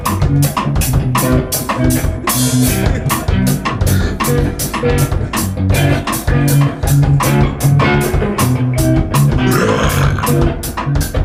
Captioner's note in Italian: burp